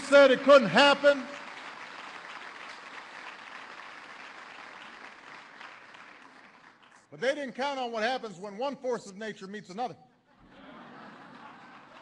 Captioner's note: applause; laughter